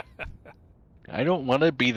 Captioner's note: laughing